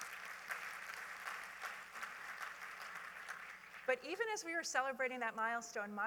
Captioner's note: applause